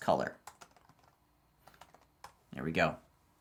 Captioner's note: keyboard keys clicking